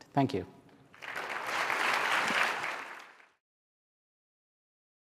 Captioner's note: applause